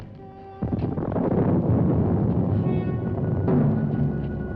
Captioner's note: thunder rumbling